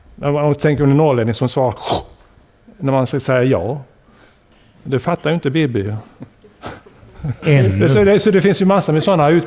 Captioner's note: inhalation